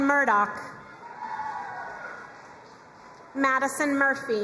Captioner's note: crowd cheering and applauding